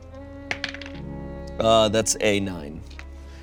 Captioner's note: die rolling